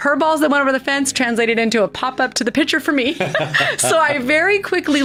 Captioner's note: laughing